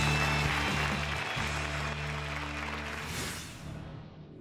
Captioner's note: applause